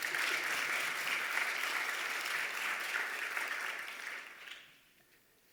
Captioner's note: applause